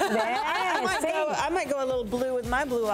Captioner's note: laughs